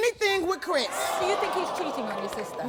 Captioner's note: audience groaning